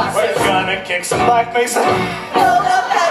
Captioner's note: coughs